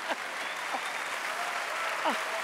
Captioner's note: audience applause